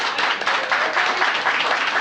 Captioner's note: applause